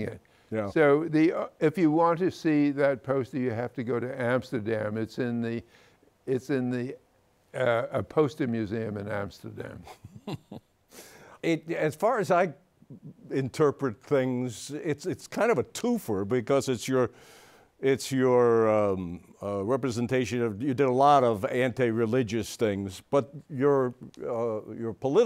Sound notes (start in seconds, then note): 11.9 laughs